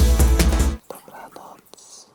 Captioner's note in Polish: bardzo cichy szept